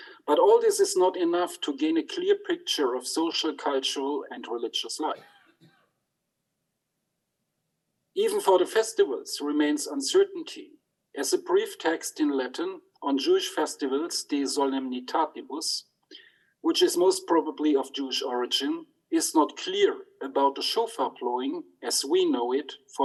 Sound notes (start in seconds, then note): 14.6 speaks in Latin